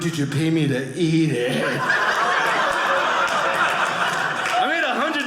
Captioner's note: audience laughing